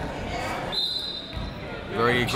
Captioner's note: whistle